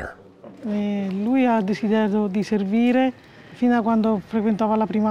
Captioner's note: speaking Italian